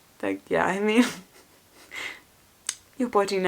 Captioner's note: laughs